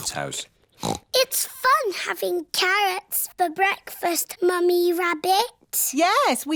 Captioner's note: snorts